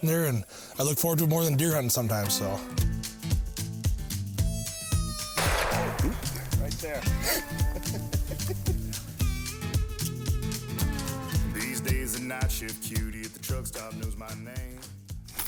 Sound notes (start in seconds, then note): 5.4 gunshot rings out; 8.0 hunter laughs